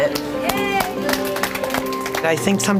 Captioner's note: people clapping